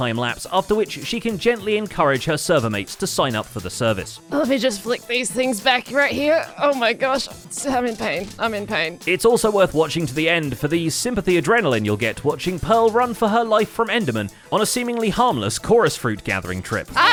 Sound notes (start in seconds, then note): 6.6 strained